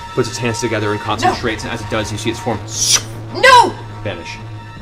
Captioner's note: sucking noise